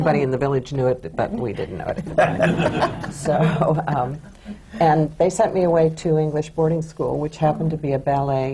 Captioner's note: laughter